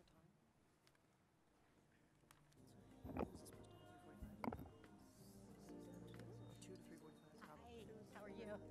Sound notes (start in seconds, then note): 2.4 gentle music; 2.6 people chattering